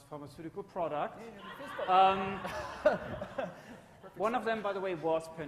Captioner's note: audience laughs